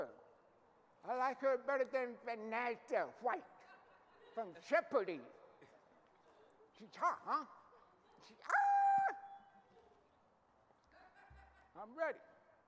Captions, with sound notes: Good. I like her better than Vanessa White from Jeopardy. She talks, huh? (howling) I'm ready.